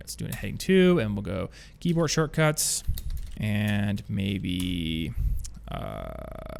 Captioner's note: typing